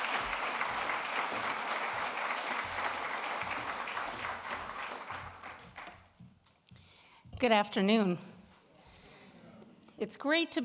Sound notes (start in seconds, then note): 4.1 applause